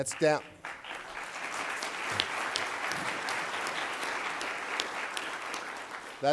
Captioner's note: applause